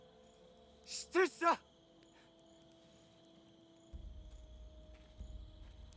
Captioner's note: speaking in foreign language